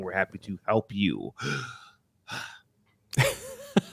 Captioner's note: deep breath